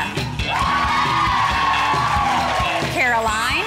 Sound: girls cheering

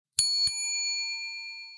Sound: bell ringing

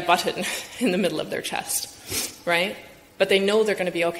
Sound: chuckles

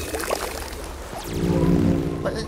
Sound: laser sound

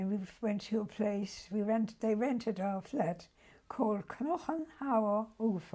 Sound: german

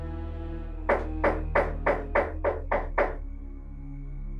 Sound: knocks on the door

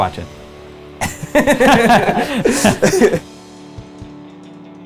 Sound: laughter

